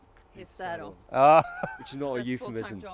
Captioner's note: laughing